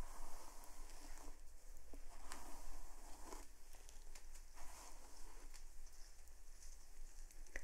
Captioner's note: brushing sounds